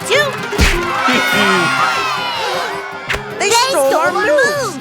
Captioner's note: gasps